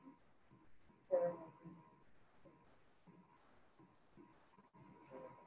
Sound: student speaking faintly

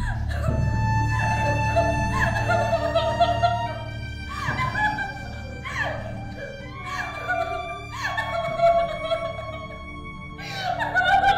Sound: Chinni crying

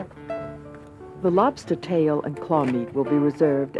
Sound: voiceover

